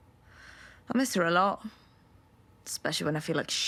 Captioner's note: she inhales